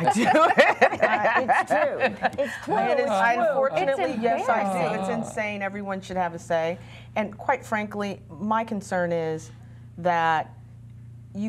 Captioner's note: laughter